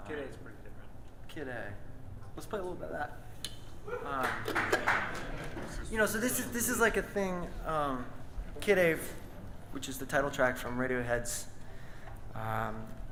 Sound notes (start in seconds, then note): 4.0 audience cheers and claps